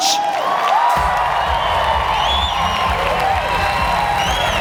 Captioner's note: audience cheers